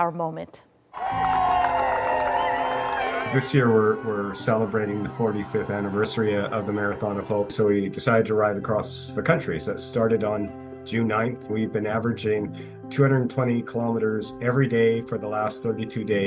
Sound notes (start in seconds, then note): 7.1 cheers and Applause